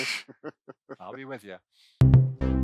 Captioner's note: laughs